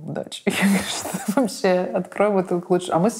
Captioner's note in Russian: смеясь